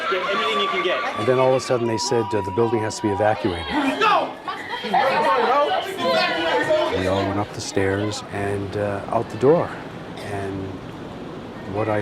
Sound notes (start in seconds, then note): 4.2 people yelling